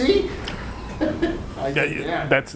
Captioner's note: laughing